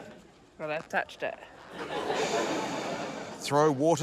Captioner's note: laughter